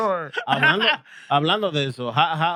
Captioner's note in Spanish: Hablando en idioma extranjero